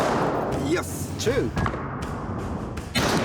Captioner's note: gunshot